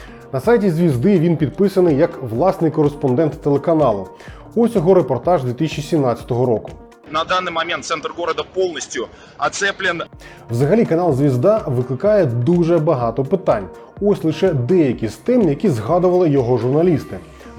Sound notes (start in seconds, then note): 7.0 russian